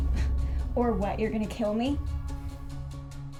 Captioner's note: scoffs; ominous music; dramatic music